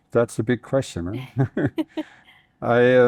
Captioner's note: both chuckling